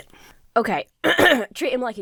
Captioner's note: clears her throat